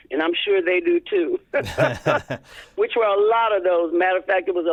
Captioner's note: laughter